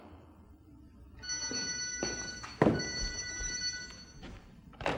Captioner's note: phone ringing